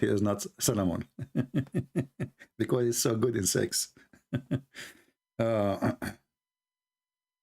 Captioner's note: Ketawa